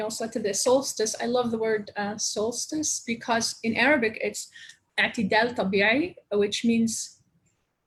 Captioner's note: speaking Arabic; long pause